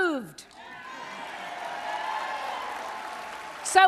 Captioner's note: applause